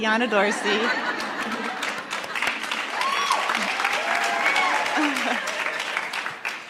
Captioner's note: laughs and cheers; applauds; laughs